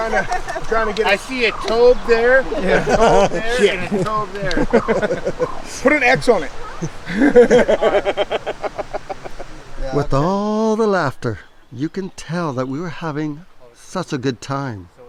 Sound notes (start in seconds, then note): 4.7 all laughing; 6.8 laughing